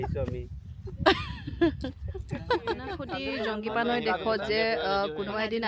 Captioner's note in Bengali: সশব্দ হাসি